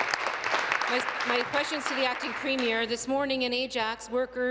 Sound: applause

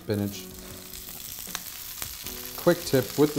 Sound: oil sizzles

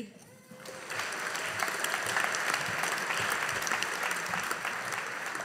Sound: audience applauding

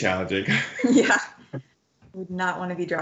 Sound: laughs

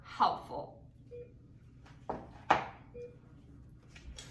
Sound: beeping

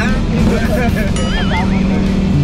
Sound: engine rumbling; laughs

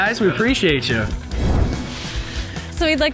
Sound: logo whooshes

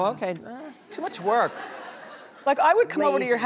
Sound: audience laughing

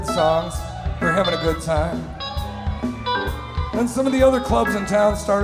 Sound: crowd cheering

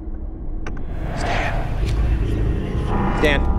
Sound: whispering Male Voice

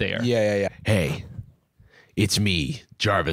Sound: deep voice

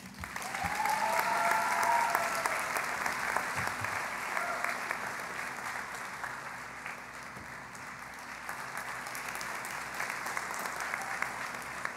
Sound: cheering and Applause

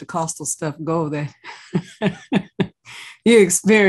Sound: laugh

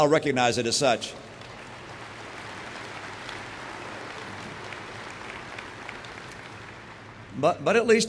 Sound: applause

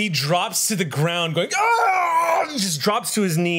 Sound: monster sounds

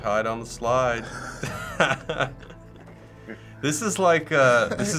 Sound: laughing

